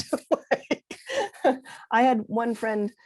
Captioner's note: laughs